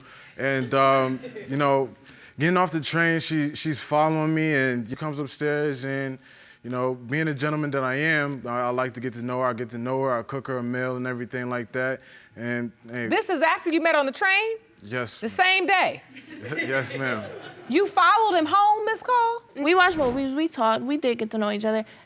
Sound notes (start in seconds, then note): 16.2 audience chuckling